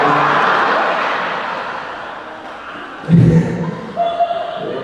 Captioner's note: audience laughing